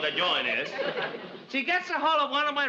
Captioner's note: audience laughs